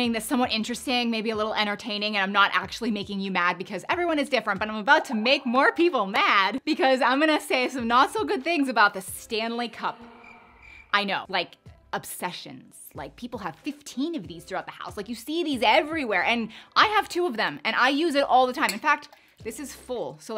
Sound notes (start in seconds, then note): 10.0 crickets chirping